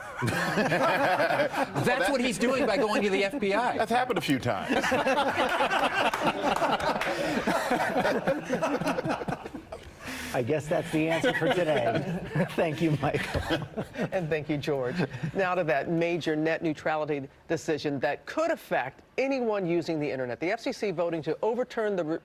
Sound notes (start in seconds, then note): 4.6 laughter